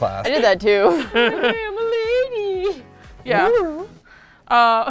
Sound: laughs; high voice

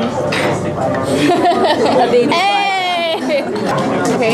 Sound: laughs

